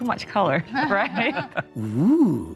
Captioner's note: laughs